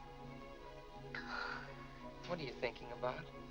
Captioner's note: Mary sighs